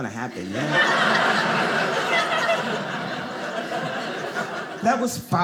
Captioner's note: audience laughing